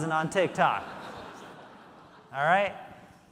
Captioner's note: audience laughing